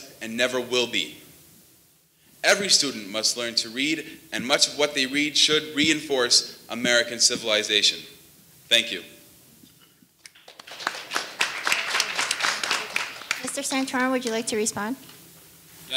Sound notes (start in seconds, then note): 10.3 audience applauding